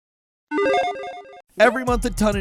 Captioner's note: digital tone